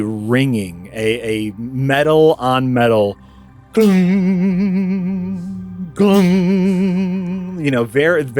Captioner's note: CLANG but with reverb